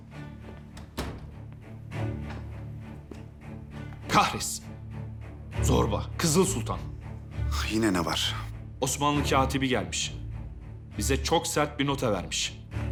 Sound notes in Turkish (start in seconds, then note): 0.0 Müzik - Gerilim; 0.6 Kapı kapanma sesi